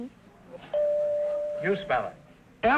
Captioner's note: chime rings